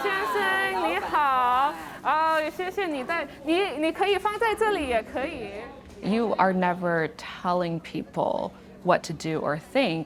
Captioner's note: speaking Chinese